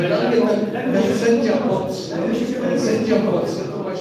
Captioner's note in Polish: poruszenie na sali